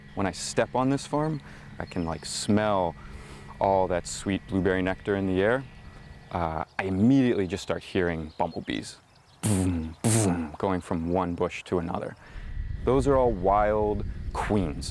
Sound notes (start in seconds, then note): 9.5 whooshes